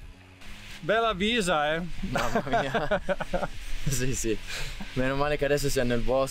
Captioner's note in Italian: vento gelido